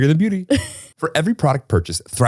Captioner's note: laughs